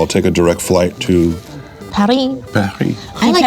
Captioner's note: mimics french accent